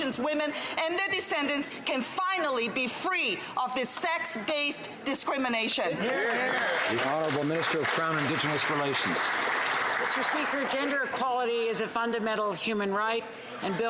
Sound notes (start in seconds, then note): 9.2 some Applause